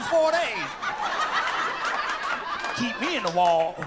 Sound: laughter

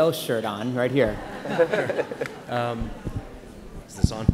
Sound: laughs

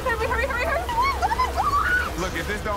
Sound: cheers; screams

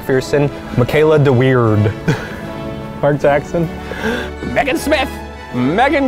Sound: chuckling

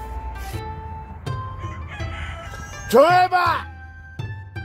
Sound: cock-a-doodle-doo

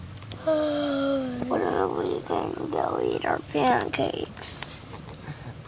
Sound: yawns

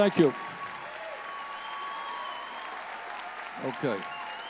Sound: audience cheering

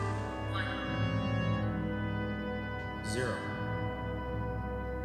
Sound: Over the tricorder, one digit of pi can be heard in Lt Brach's voice

